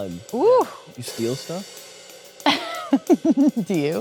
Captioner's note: Kate laughing